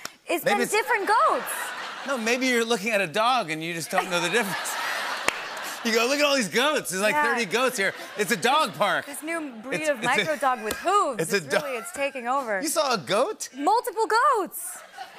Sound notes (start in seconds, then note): 3.8 laughter